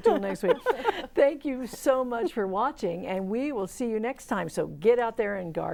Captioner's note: laughing